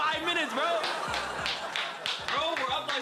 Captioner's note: clapping